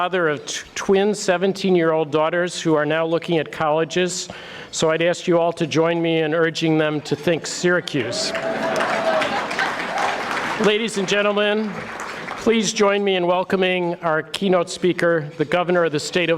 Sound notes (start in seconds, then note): 7.9 audience cheering